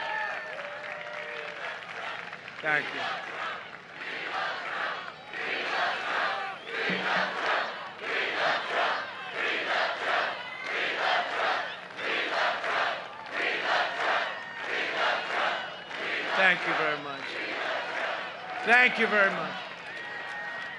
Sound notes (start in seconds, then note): 9.6 crowd chanting